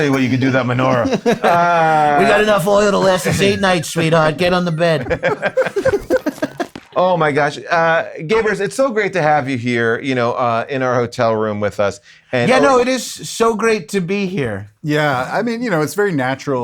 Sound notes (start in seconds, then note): 5.5 group laughing lightly